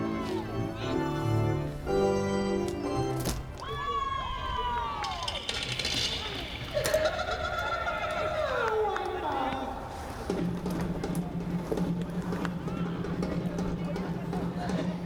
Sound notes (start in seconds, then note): 3.6 fans yell; 7.5 woman laughs